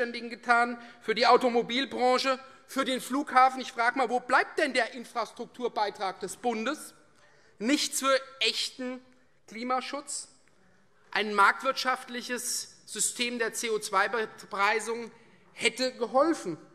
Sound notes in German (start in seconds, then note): none